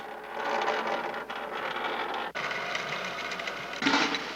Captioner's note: metal wheel spinning